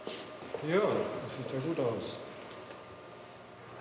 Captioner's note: speaking German